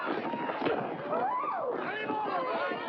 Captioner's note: women squealing; commotion